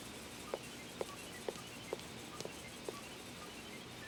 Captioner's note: footsteps leaving